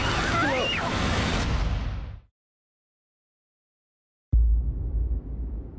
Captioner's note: screams